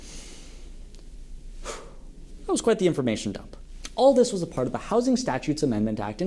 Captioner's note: breathe